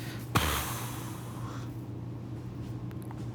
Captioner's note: sighing